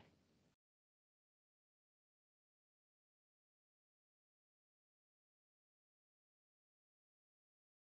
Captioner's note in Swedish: Tystnad